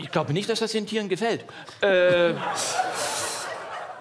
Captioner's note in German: Lachen